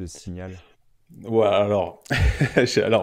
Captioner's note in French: Rire